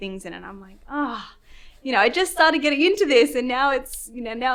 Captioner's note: groans